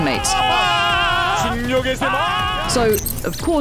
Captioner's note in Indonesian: Penyiar bersorak